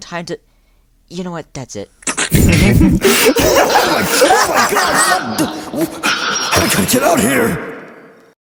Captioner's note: sounds of becoming an eldritch horror